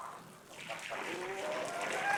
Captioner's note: water flowing